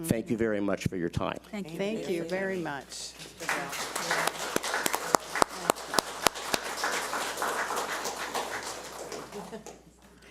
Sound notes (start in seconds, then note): 3.2 audience applauds